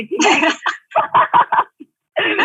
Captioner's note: laughing